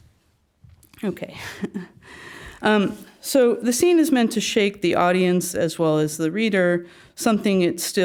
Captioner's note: laugh